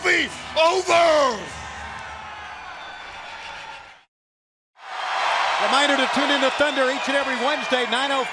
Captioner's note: crowd cheering